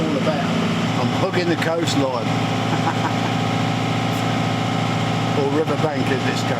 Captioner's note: laughing